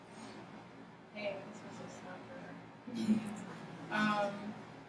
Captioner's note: speaking softly